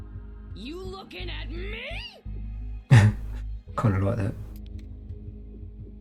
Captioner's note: chuckle